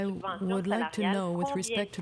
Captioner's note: speaking French